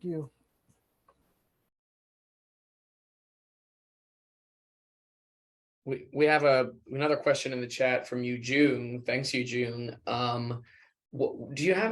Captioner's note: silence